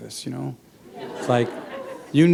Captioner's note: chuckle